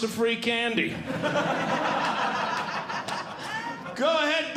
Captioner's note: audience Laughing